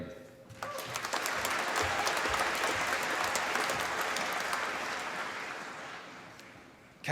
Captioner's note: applause